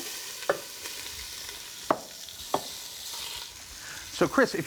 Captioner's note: pot sizzling